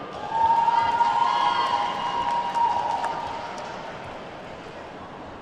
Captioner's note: attendees whooping and clapping